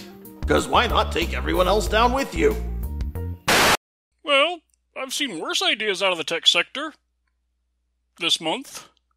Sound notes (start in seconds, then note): 3.4 static